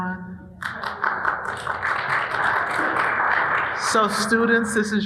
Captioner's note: audience applauding